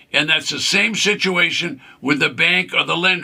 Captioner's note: none